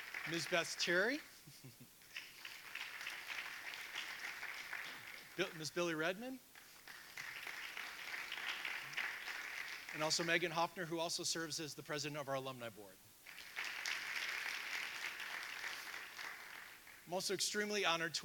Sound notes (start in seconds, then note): 2.0 audience applauding; 13.2 audience applauding